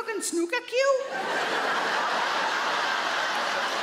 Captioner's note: audience laughs